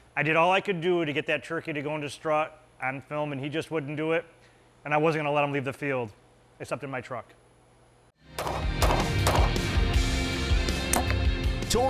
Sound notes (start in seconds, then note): 8.4 gunshots; 8.4 upbeat music